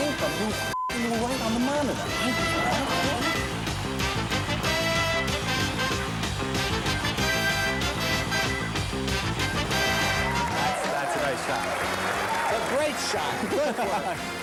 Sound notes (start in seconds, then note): 8.7 crowd cheers; 12.9 laughing